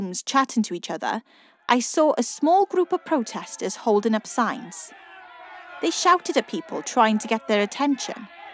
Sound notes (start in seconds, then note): 1.4 protestor chants and cries